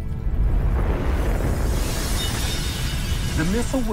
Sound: glass tinkling

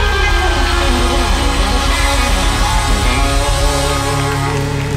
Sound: audience applauding

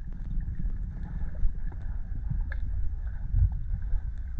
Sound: noises under water

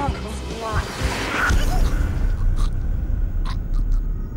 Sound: choking

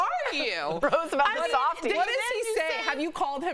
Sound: laughter

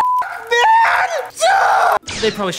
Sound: screaming

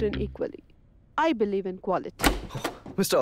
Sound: door opens

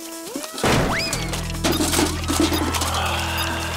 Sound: clanking

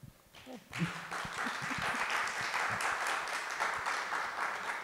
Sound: audience applauding

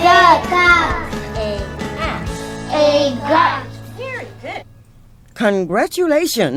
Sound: children reciting

